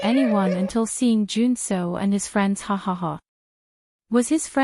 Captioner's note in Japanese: ハハハ